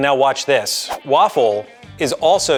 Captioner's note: graphic whooshing